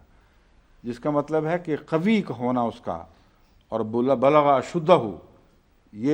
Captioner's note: Arabic